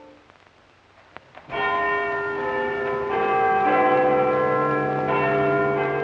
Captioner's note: bells ringing